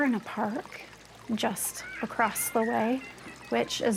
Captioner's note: water burbling